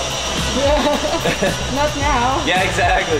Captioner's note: laughter